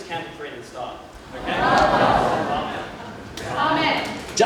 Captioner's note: murmurs of realisation